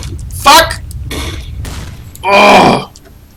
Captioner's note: grenade Explosion